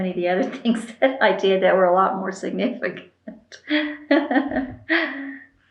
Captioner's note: laughs